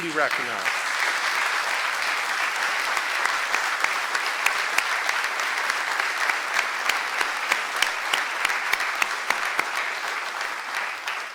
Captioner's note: applause